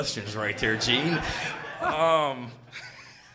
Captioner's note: audience laughing; Shane laughs